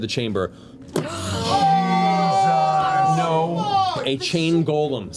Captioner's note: yelling